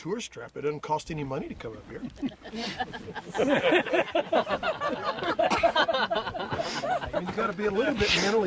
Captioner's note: laughter